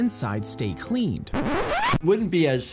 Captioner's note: vinyl record scratching